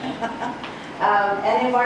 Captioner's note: laughing